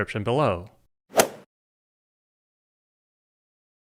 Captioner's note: golf swing sound effect